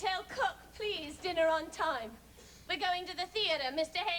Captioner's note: none